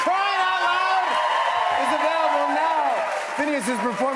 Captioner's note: cheers and applause